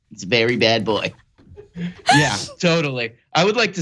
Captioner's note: laugh